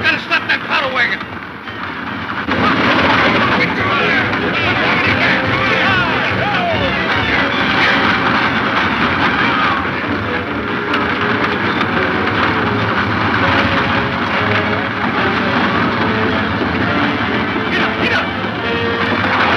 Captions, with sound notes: - We gotta stop that powder wagon. (dramatic music) (men yelling) (dramatic music) - Get up, get up.